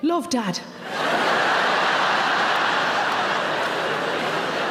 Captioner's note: audience laughs